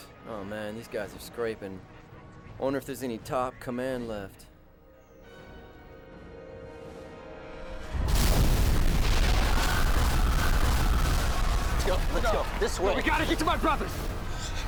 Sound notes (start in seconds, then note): 7.9 explosion